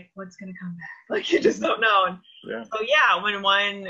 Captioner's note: laughs